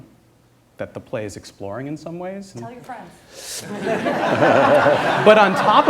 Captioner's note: laughter